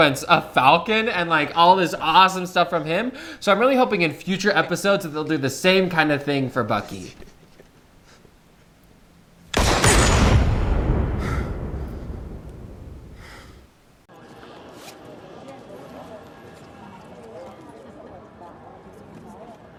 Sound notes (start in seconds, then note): 9.5 loud gunshots